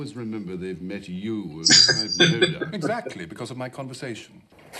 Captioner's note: laughing